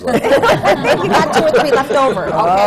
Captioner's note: laughter